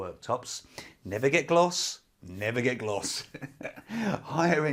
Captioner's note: laughs